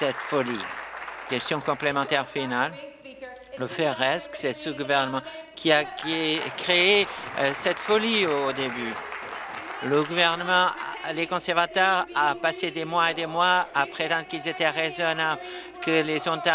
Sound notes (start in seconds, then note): 0.0 applause; 5.0 chuckles; 10.2 applause